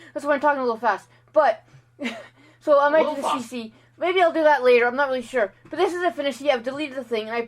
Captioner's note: 'a little fast laughs'